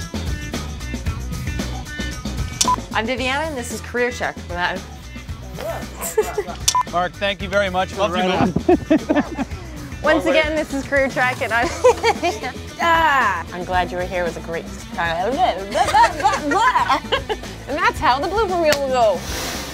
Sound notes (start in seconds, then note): 8.2 laughs; 11.9 laughs